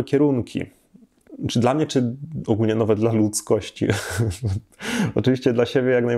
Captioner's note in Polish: śmiech